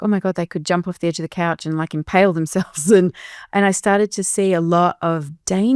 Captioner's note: chuckles